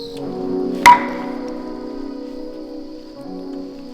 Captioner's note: knocking